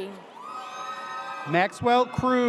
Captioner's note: audience cheers